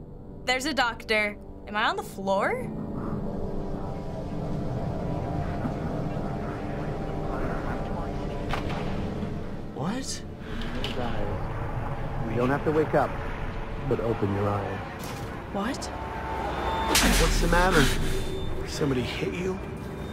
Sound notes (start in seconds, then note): 2.5 ominous music; 16.9 heaving frantically